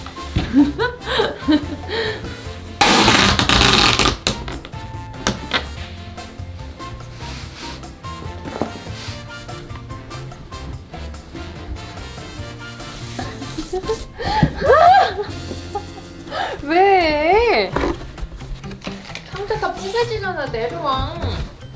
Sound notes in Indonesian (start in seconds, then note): 0.4 tertawa; 2.8 suara selotip; 13.1 tertawa